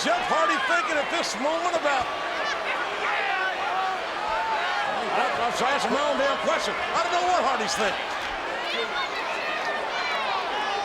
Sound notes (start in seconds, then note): 3.5 audience chattering